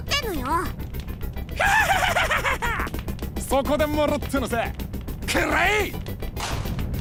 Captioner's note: villain laugh